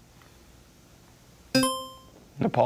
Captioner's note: tone clunks; buzzer chimes